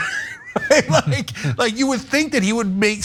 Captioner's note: laugh